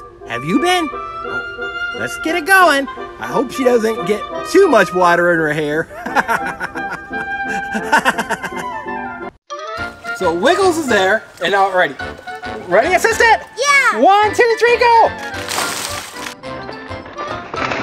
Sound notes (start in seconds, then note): 5.9 laughing; 15.1 water splashing